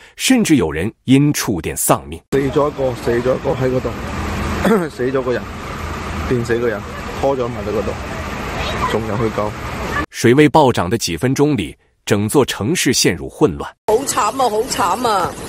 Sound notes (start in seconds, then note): 4.6 coughing